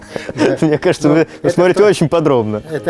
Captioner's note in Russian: смех